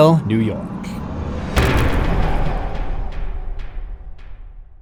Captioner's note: impact